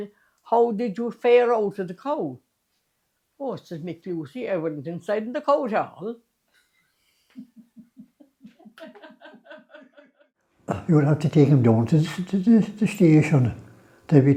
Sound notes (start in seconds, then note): 7.3 laughter